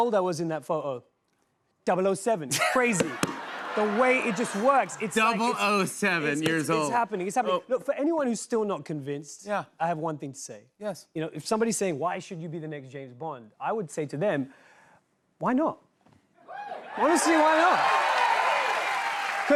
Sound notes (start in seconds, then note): 2.5 laughter; 16.5 cheers and applause